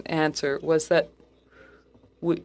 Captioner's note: speaking French